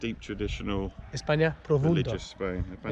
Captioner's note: speaking Spanish